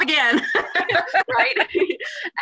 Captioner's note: laughter